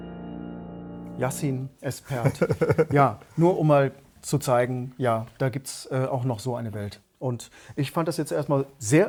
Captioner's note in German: gelächter